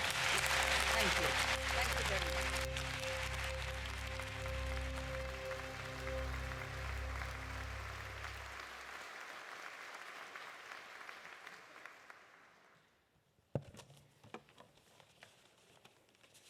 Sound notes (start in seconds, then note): 0.1 audience applauding; 3.5 audience applauding